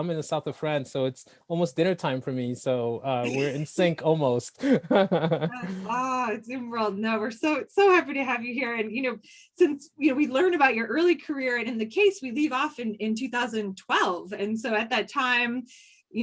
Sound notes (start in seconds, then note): 4.6 laughs